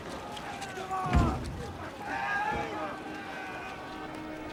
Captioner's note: shouting continues